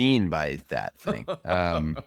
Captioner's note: laughs